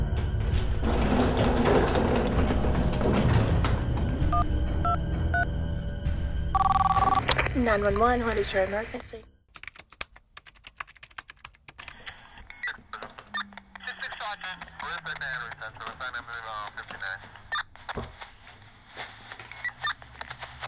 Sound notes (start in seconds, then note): 0.2 bucket crashing; 4.5 keys beeping; 6.5 phone ringing; 10.1 keys clacking; 16.2 man On Radio; 17.7 static buzzing